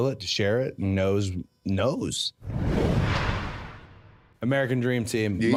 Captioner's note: logo whooshing